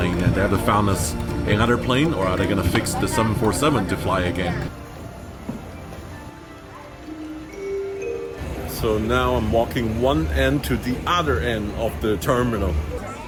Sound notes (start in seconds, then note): 4.9 airport ambience